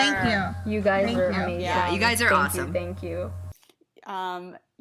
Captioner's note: chorus of agreement and thank you